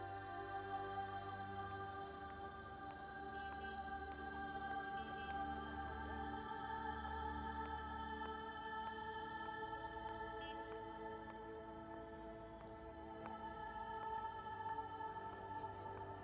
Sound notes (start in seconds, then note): 4.1 cars honking